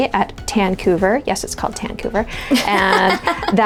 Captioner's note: laughging